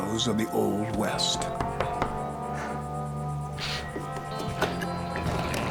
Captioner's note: knocking; door opens